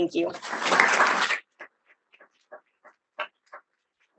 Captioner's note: audience applauding